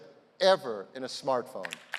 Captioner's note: applause